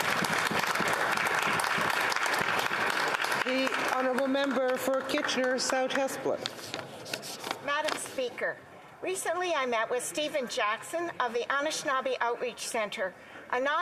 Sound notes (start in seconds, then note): 4.4 applause